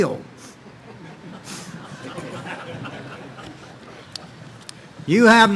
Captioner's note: audience laughing